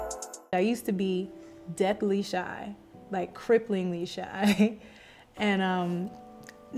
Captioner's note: chuckles